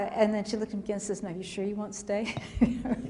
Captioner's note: laughter